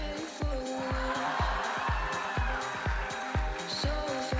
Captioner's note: audience cheers